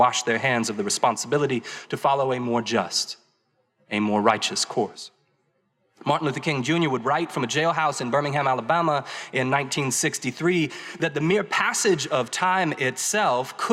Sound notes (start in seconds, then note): none